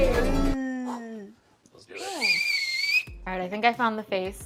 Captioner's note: whistle